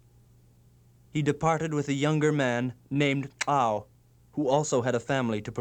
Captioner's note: non-english speech